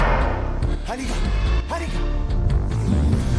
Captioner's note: angry roar; speaking Cherokee language